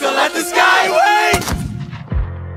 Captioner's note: gunshot